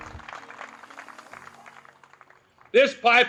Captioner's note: applause